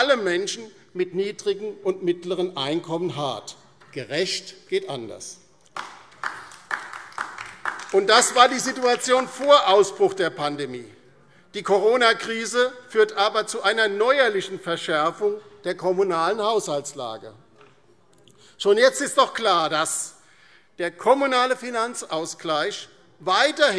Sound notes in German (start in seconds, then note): 5.7 Beifall DIE LINKE